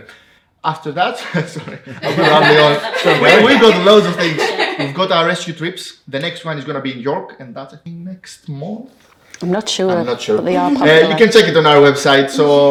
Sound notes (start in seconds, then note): 1.6 laughs; 3.9 people laughing